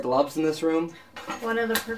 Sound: clattering

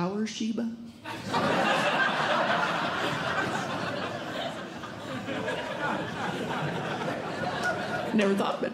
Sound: audience Laughing

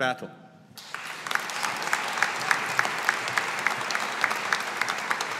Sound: audience applauding

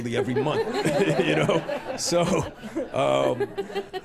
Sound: laughter

